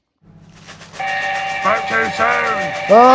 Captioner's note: train whistle